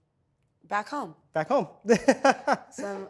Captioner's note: chuckles cheerfully